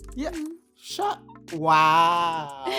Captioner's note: adoringly